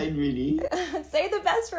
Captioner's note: laughter